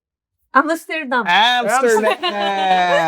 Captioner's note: laughs